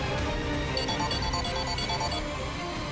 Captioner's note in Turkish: Telefon çalıyor